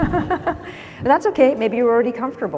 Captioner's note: laughs